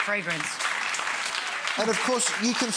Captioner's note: audience clapping